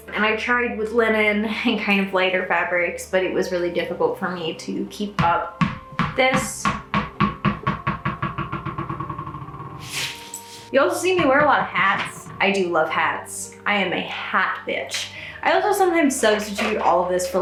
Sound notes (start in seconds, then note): 5.6 floor thudding